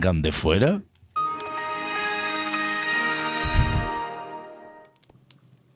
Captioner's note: windows startup sound